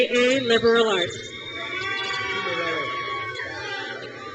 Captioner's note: crowd cheers